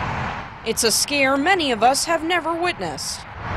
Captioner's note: sound of highway